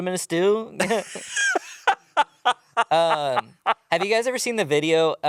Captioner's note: laughs